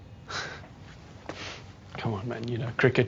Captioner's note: scoffs